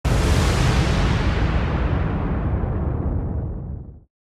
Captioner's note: loud rumble